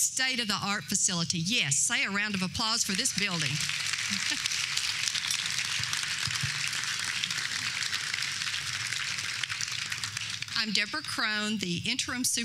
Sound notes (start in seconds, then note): 2.8 applause